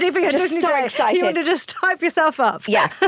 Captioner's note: laughs